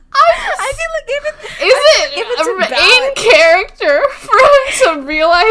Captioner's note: both laughing; laughing